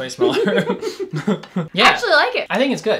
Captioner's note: laughs